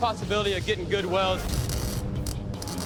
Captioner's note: sizzling